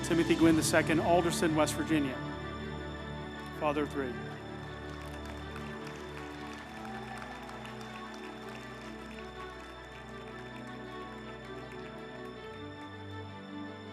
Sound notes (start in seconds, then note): 5.6 group applauding; 5.6 uplifting music